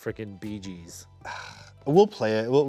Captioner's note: sighs